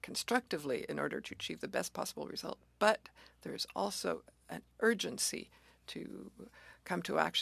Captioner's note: speaking French